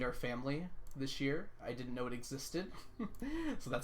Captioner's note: laughs